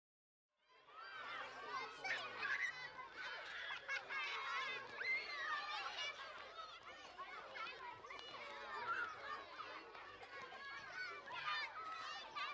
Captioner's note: sound of children playing on the playground